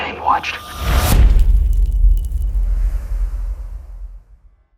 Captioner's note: cinematic impact